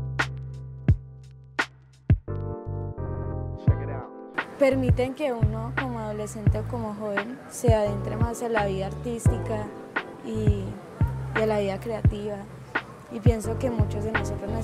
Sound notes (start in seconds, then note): 4.6 speaking in foreign language